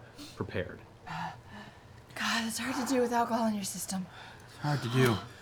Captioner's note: panting